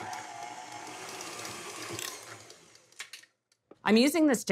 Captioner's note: quiet whirring